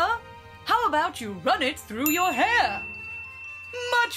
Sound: ping

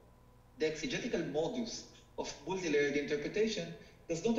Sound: speaking foreign language

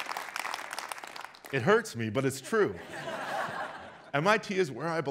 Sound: audience laughs

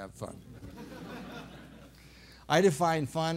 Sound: laughter

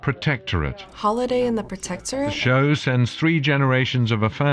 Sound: voice-over

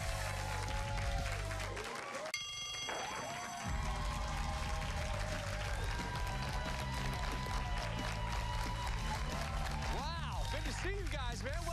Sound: cheers and applause

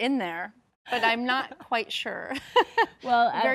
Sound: laughs

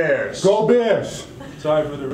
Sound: laughs

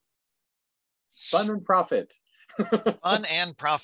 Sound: laughing

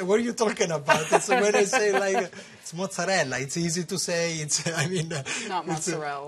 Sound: laughter

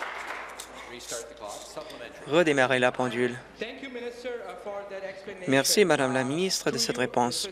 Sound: applause

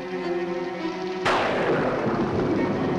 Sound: thunder crashes

